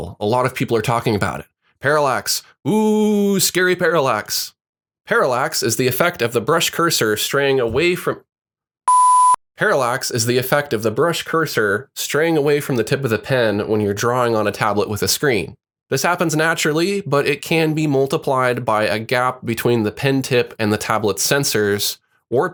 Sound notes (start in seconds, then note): 8.8 beeps